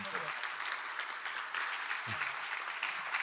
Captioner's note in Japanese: 拍手